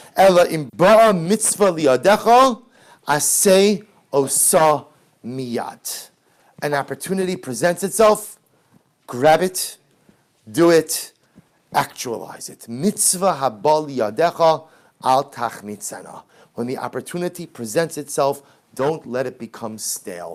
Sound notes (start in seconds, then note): 0.2 Hebrew; 14.7 Hebrew